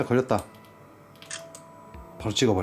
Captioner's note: パシャッ